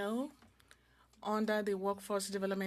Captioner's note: speaking French